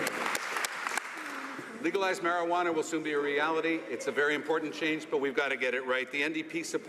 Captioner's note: some Applause